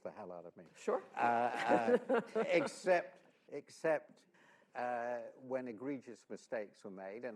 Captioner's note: laughter